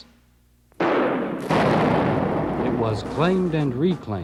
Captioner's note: guns firing